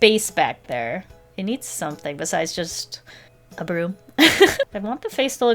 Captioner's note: laughs